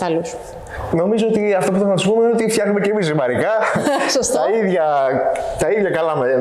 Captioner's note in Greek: γελαει